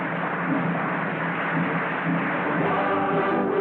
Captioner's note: applause